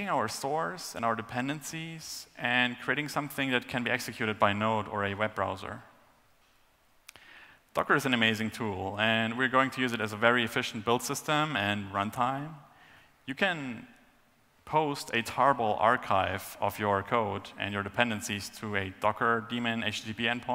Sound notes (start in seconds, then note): none